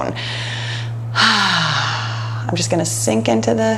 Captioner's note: exhales